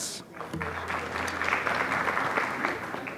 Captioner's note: applause